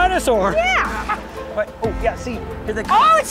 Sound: laughs

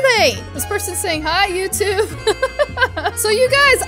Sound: laughs

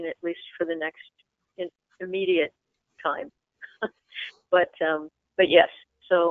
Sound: chuckles

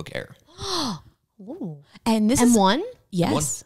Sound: gasps

